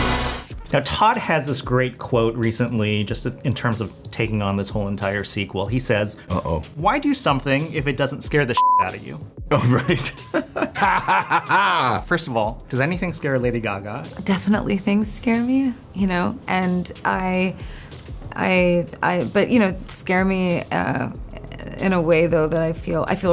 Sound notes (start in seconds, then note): 9.5 laughs